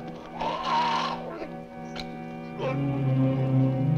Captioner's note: horse whinnies; man groans